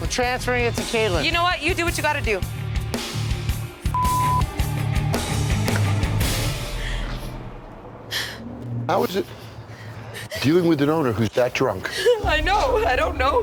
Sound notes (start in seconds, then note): 3.9 beep; 4.3 dramatic instrumental music; 7.6 woman crying